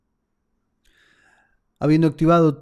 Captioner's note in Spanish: suspiro